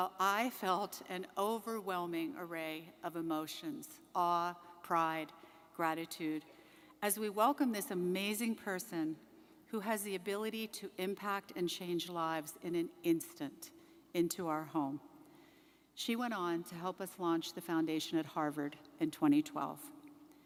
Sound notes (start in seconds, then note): none